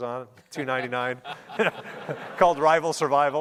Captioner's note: laughing